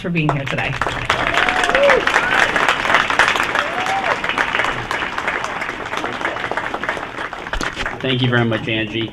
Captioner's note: applause